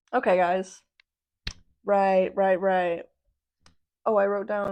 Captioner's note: clap